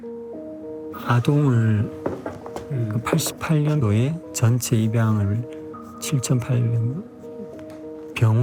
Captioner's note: speaking Korean